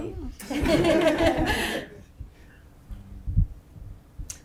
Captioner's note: panelists laughing